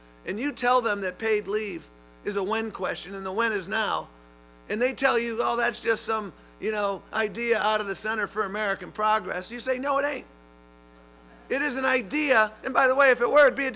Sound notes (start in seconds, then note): 11.0 laughter